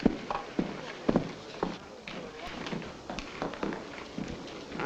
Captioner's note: men chattering nearby